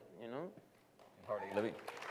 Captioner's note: applause